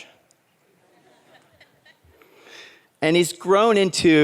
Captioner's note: audience laughs